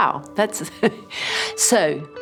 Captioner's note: laughs